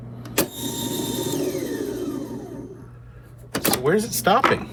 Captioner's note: tape recorder whirring